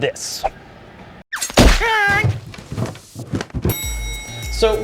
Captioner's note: smack